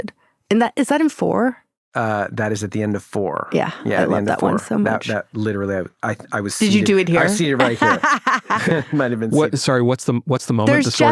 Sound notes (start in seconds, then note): 8.6 laughs